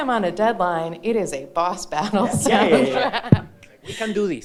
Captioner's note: laughing